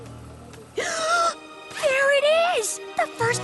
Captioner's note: gasp